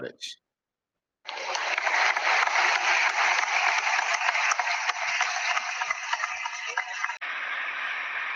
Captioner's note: applause